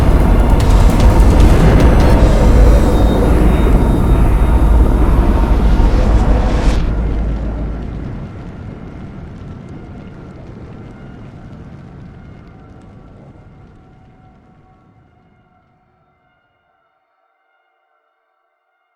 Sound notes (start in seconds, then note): 7.0 fire burning